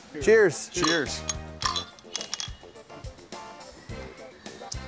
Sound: bottles clank

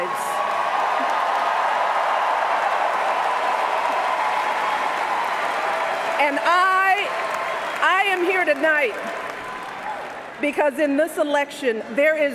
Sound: cheers, applause

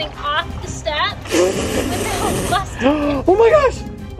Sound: laughs

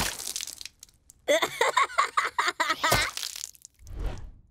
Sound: laughing

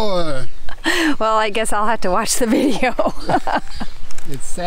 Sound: laughs

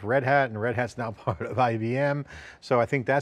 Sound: chuckles

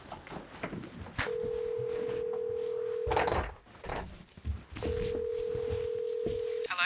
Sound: dial tone

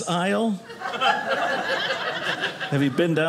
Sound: audience laughing

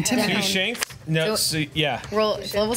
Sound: groups whispers amongst each other

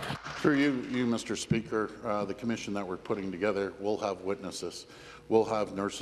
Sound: applause

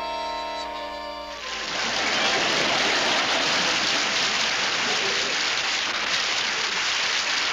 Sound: audience applauds

